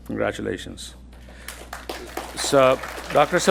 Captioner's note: attendees applauding